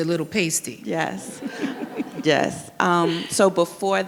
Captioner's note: audience laughs